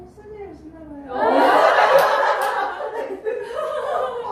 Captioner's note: Laughter